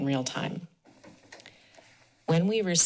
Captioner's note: pause